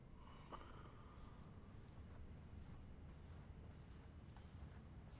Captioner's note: Mark snores softly